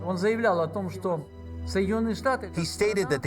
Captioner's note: speaking foreign language